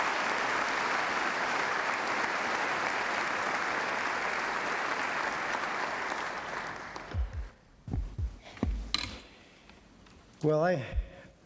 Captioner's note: applae